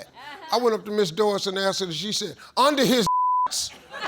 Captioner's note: beep